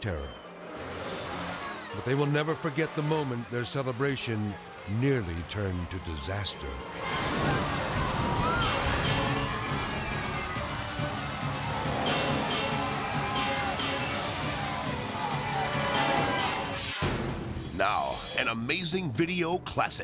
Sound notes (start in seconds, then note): 0.1 tense music; 6.5 tense music; 6.8 people clamoring; 16.3 graphics whooshing